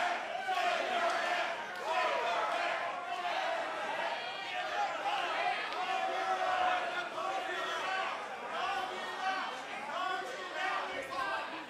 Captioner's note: fans chanting